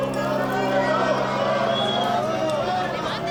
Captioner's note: shouting crowd